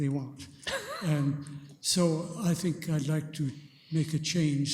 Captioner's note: chuckling